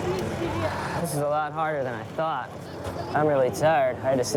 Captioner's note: sighing